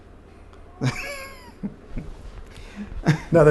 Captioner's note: laughter